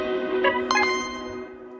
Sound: video game midi chime hits on explosion

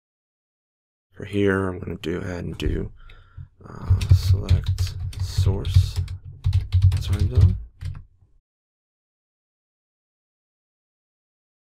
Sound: typing

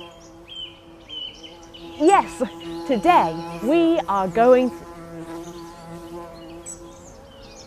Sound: buzzing

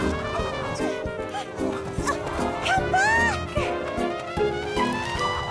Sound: wind whistles

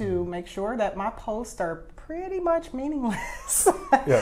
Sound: laughs

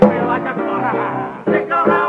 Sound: laughs, unashamed

